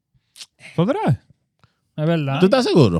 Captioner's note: speaking Foreign Language